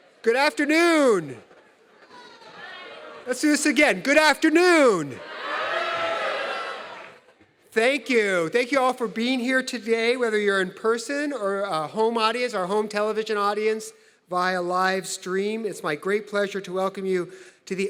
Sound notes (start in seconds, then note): 5.1 audience cheering